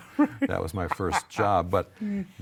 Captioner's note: laughing